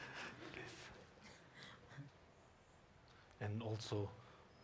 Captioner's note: audience chuckling